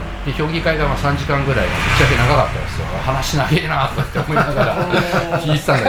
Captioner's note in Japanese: 笑い